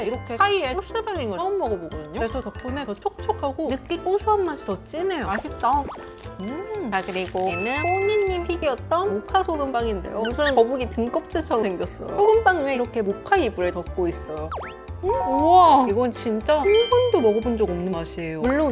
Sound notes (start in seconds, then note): 5.3 nom nom